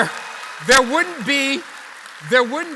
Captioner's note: applause